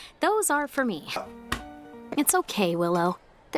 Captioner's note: slap